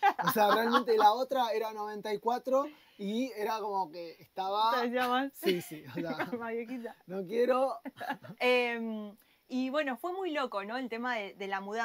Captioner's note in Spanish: risas